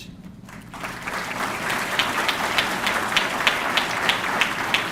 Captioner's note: audience clapping